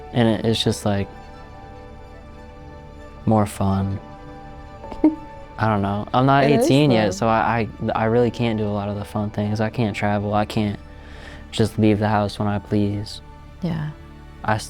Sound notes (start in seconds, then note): 6.4 laughs